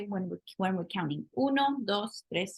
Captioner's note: spanish